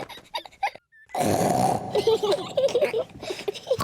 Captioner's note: giggles; snorts and giggles; both snorting and laughing